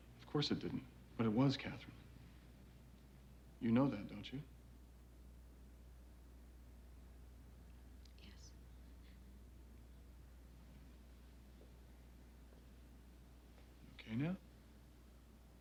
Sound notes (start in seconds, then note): 11.5 footsteps tapping